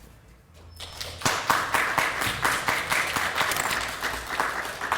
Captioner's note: audience clapping